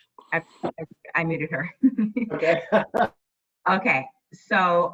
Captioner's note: laughter